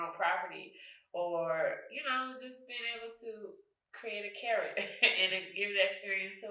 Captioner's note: chuckles